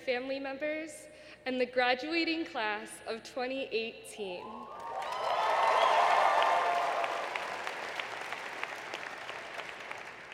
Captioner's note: applause